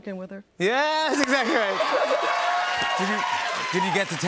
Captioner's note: cheers and applause